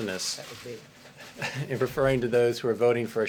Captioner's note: laughter